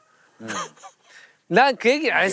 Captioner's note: laughing